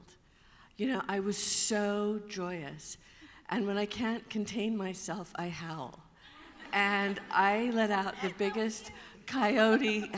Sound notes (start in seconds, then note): 6.2 laughter